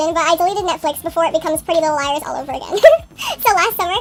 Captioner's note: laughs